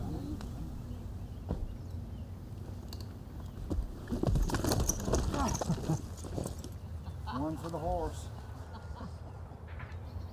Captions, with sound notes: [laughs] ONE FOR THE HORSE.